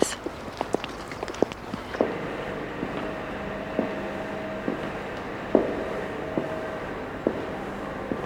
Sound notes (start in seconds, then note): 1.9 echoing footsteps